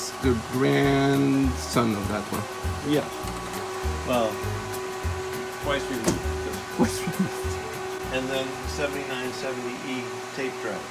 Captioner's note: chuckling